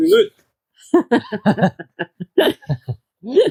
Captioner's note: laughter